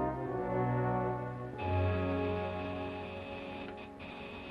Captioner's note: buzzer